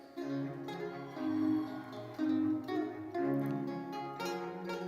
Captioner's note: audience cheers; triumphant music